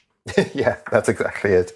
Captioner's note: laugh